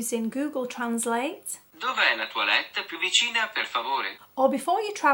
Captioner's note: Authentic Italian voice via Google translate